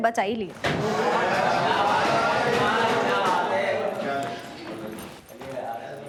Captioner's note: cheering in joy